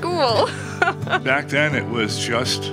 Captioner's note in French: riant